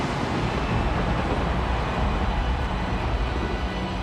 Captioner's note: crowd cheers; thunder booms